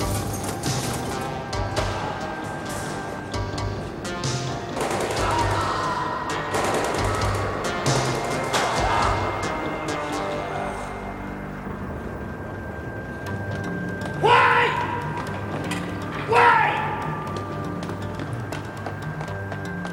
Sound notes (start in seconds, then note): 0.3 suspenseful music; 5.1 screaming; 6.2 gun firing; 9.4 grunting